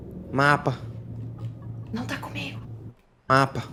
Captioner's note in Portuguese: sussurrando